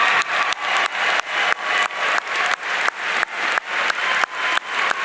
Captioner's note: audience cheering